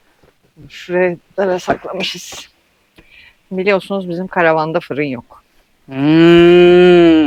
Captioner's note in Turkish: homurdanır